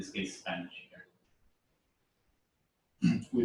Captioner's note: pause